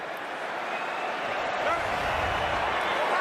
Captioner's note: crowd cheering